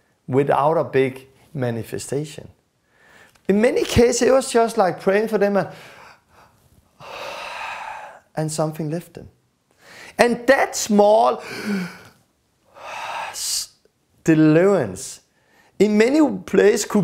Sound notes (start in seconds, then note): 7.4 breathing out; 15.3 breath